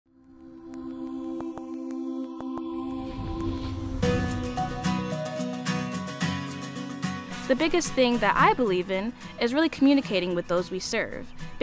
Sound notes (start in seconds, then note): 0.4 electronic tones; 4.4 upbeat music